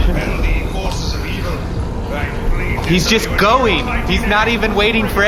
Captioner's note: shouting